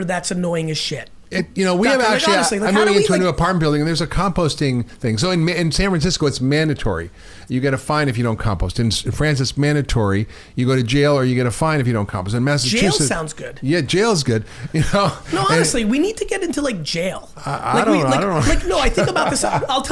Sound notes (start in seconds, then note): 14.6 chuckles; 17.4 laughing